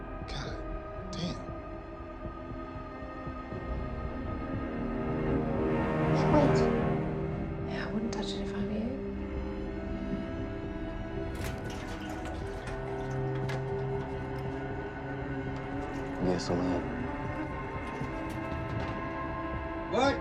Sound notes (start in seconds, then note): 1.6 eerie music; 11.1 gasoline sloshing; 11.8 pensive music